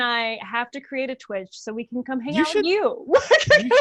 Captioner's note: laughs